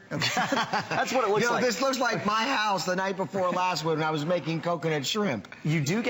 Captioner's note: laughter